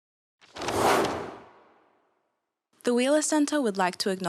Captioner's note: paper rustling; logo whooshes